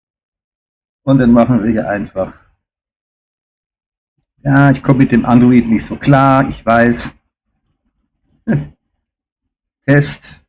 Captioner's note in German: räuspern